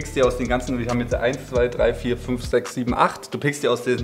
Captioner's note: counting